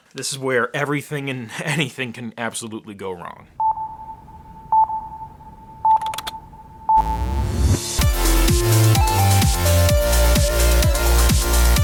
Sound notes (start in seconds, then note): 3.6 beeping; 6.9 upbeat electronic music